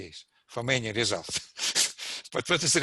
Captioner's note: laughs